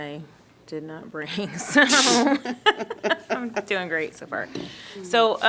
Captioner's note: laughter